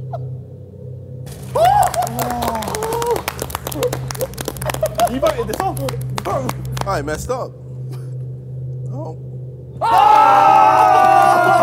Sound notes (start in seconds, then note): 1.3 clapping